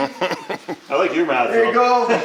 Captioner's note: laughs